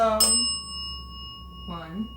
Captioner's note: bell dings